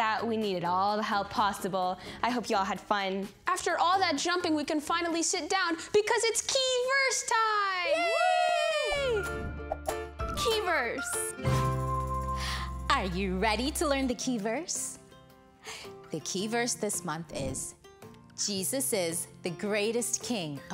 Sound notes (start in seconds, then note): 7.9 pair cheering; 10.4 bright music